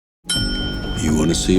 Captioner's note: ding!